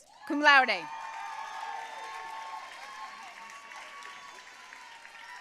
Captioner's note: audience cheering and applauding